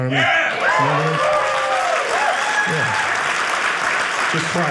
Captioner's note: audience cheering